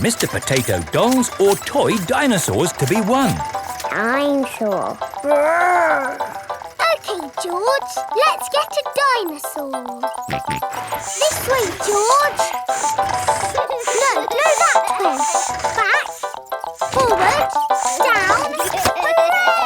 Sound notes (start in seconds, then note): 10.2 george snorts